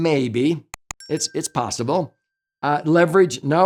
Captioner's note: bell chimes